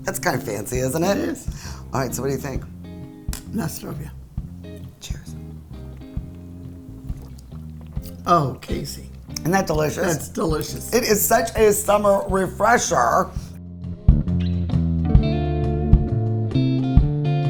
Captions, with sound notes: That's kind of fancy, isn't it? - It is. - All right. So what do you think? (speaking foreign language) Cheers. - Oh, Casey! - Isn't that delicious? - That's delicious! - It is such a summer refresher. (gentle music)